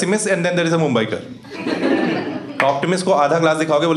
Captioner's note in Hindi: हँसना